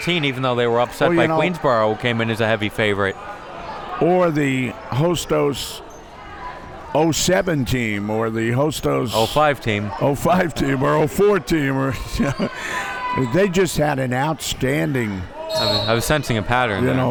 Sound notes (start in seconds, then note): 11.9 laughs